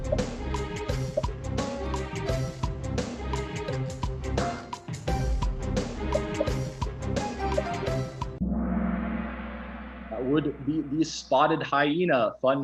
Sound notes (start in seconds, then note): 8.4 gong